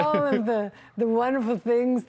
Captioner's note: laughter